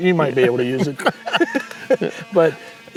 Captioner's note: both laughing